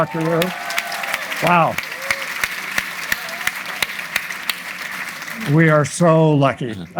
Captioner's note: audience applauding; audience applauds